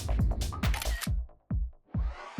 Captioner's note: camera shutter